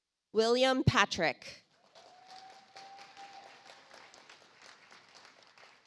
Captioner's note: audience applauds